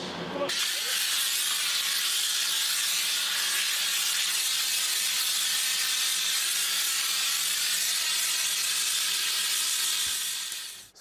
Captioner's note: air blowing